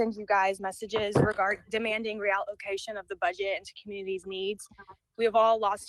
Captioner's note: ~interference~